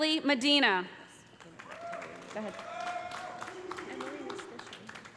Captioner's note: cheers and applause